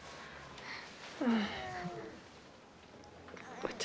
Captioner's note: baby cooing